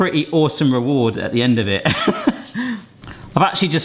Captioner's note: laughs